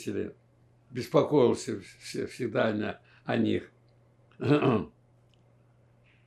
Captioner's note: clears throat